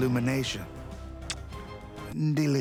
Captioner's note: blows kiss